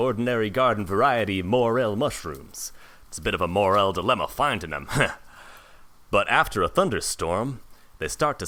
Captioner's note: laughs